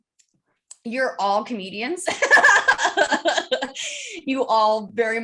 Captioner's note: laughs